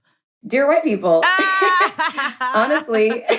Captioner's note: laughs